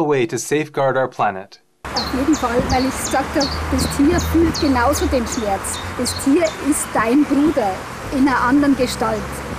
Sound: in German

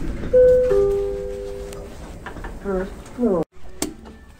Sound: chime

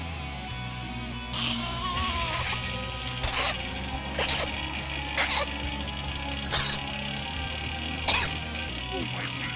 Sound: stifling laughter

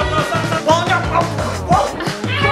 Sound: grumbles; laughing

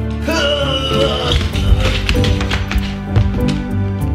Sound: hurls voice

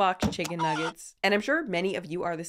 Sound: chicken nuggets squawking

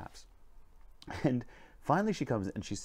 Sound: chuckles

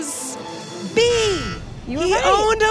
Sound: buzzer beeps

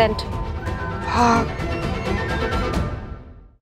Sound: sighing

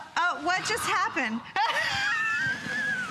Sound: laughter

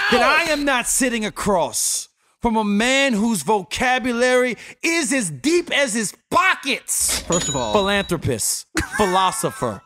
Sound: ca-ching

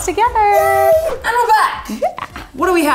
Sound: gasps

